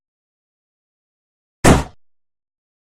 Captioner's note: balloon popping sound effect